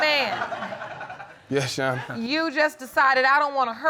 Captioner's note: audience laughing